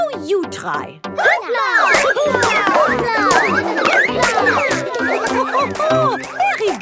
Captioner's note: all laugh